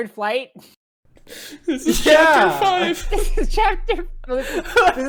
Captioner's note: laughing continues